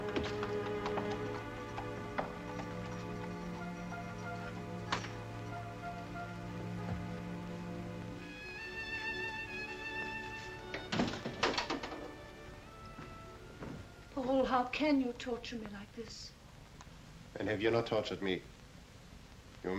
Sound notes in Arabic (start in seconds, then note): 10.6 يغلق الباب; 10.7 يصدر صوت قعقعة قصب